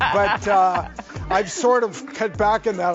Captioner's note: laughing